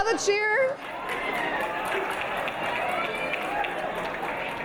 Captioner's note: audience cheering